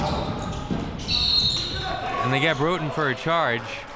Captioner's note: whistle blows